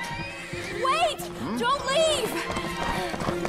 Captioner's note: horse whinnies